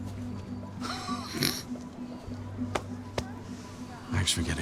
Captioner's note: Chuck laughs